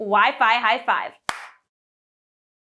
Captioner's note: hands clap